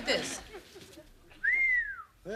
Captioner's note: whistles